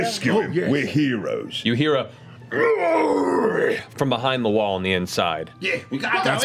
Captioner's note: muffled yelling